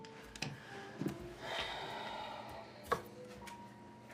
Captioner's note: sighs